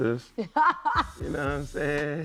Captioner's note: laughing